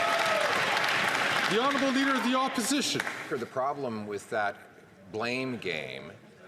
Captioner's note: some Applause